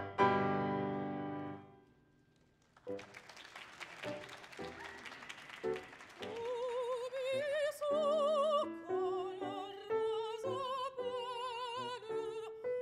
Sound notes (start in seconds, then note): 2.4 audience applauding; 2.9 lilting music; 6.4 singing in French continues